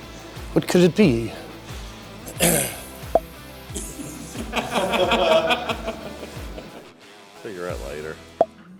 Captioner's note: laughter